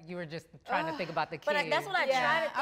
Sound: sighs

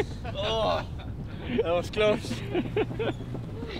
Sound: laughs

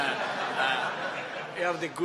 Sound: laughter

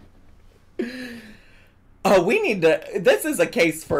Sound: laughs

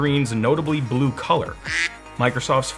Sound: quack

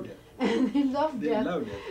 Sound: laughing

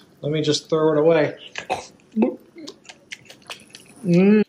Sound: unpleasant eating sounds

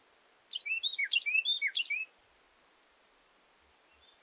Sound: bird chirps

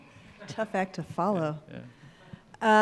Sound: laughing

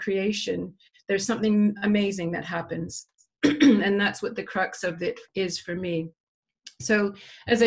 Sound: cough

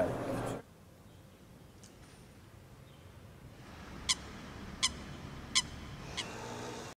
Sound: birds chirping

